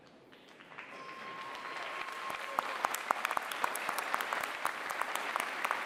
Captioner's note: applause